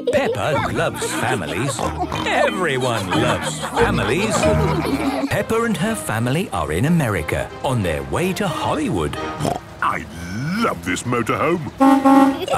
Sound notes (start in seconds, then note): 1.3 snorts; 11.7 honking